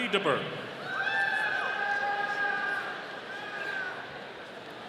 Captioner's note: audience cheering